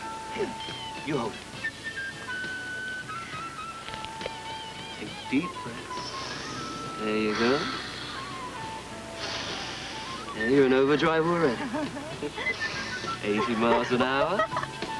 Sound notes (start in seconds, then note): 11.4 she laughs